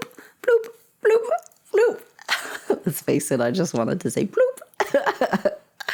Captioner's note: making more bloop sounds; laughter